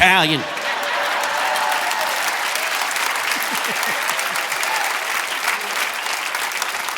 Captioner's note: audience laughing and applauding